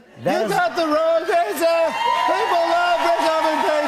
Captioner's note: cheers and applause